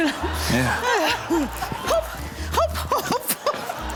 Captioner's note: laughs